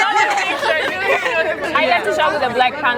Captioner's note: all laughing